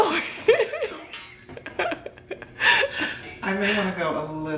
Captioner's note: laughing